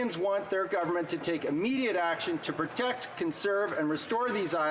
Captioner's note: none